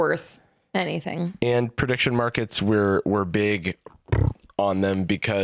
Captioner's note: blows raspberry